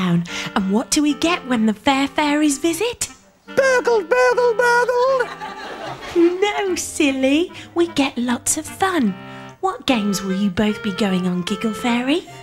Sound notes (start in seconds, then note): 0.0 gasps; 4.7 crowd laughs